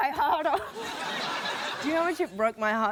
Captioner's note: laughter